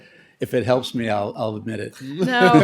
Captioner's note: laughter